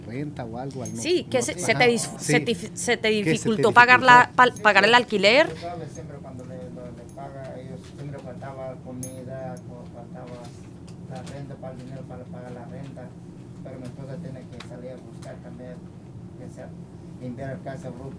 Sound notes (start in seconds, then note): 0.9 speaking spanish